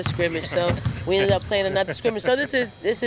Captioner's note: interviewer laughs